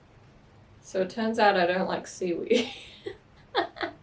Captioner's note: laugh